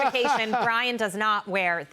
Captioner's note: laughter